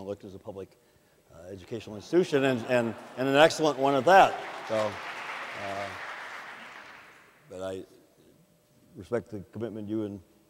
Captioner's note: audience laughs; audience applauds